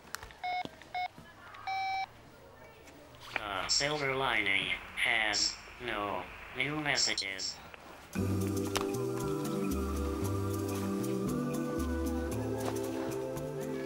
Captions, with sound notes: (phone dialing) - [Robot Voice] Silver Lining has no new messages. (upbeat music)